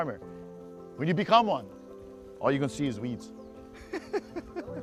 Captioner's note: laughter